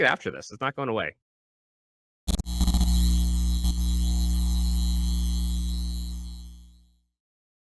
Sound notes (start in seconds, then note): 2.2 computer static